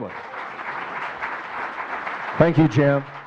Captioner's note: audience clapping